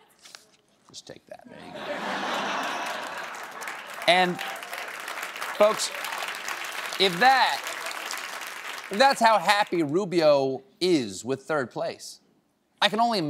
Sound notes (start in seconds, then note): 1.5 laughter; 2.4 applause